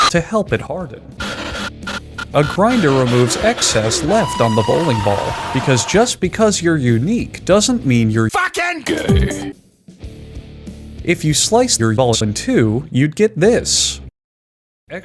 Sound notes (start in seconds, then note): 2.2 scp femur breaker screaming, panting